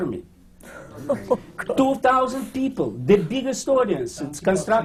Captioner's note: laughter